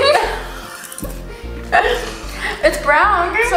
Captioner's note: girls laughing